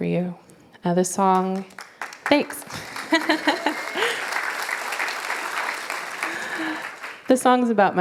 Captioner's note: applause